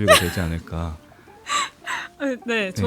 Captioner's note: laughs